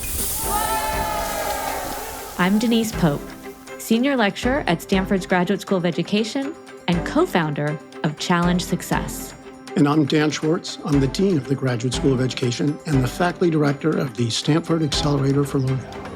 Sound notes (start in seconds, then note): 0.1 students cheering